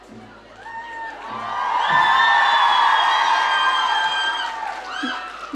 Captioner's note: audience cheering